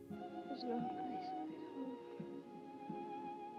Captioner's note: quietly